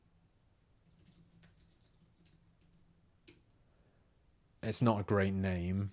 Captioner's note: silence